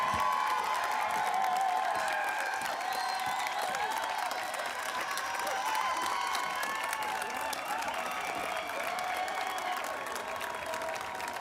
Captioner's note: applause; cheering